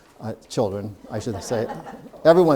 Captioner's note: audience laughing